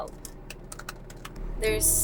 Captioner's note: typing